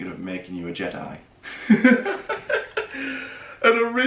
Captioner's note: laughing